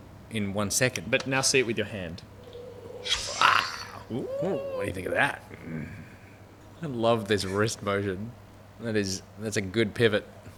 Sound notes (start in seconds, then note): 3.3 curious noises